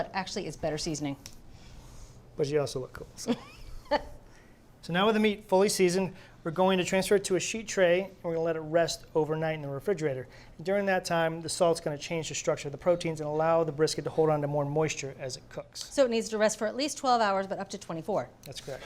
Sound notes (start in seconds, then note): 3.3 laughs